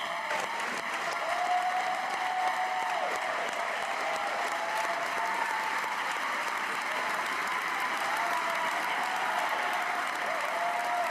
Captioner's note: cheers; applause